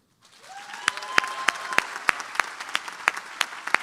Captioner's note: applause